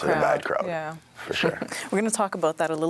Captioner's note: chuckles